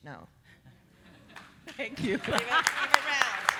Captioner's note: audience applauding